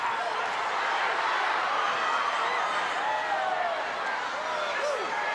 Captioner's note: audience cheering